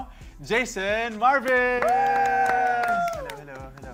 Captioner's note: clapping